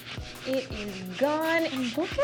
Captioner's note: sound of wiping mat